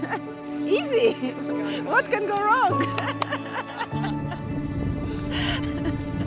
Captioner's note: laughing